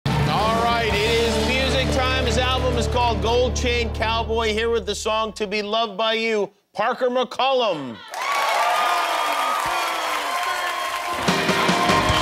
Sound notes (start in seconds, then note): 7.9 audience cheers